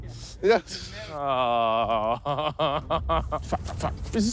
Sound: laughing

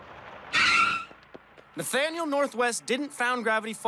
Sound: brakes squeal

